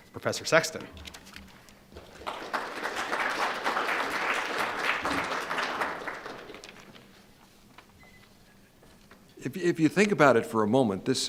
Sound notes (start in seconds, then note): 1.9 applause